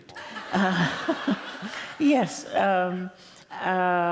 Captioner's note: laughter